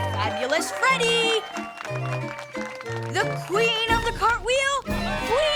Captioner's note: applauding